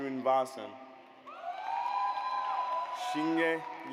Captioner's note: audience cheers